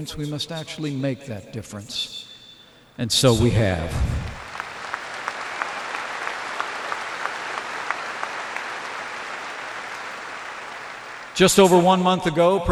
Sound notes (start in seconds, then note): 4.2 applause